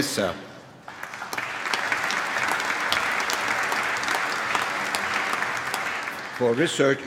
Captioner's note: applause